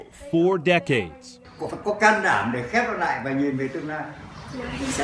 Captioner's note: Man speaks Vietnamese